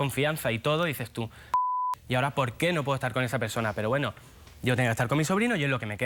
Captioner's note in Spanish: Bip